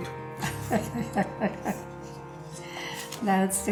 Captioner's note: laughing